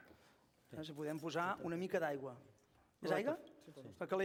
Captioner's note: non-english speech